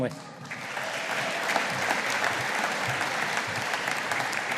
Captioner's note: audience applauding